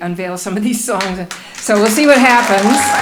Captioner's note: applause